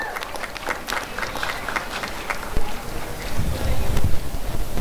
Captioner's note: applause and cheering